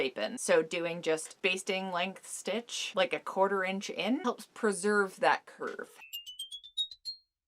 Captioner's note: magic sound